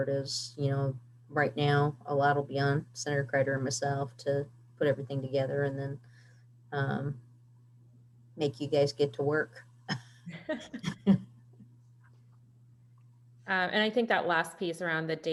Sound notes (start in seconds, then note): 10.3 chuckling